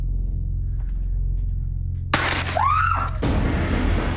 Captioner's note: screams